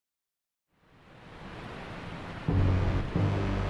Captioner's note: waterfall sound